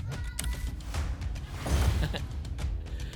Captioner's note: whoosh; thump; chuckling